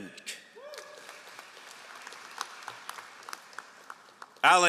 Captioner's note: all applauding